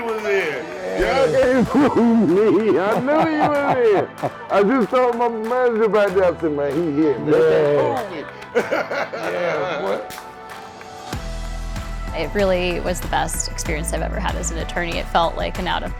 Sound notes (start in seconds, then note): 6.1 laughing